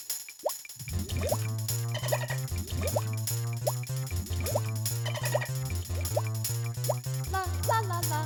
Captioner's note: ticking, clicking, bubbling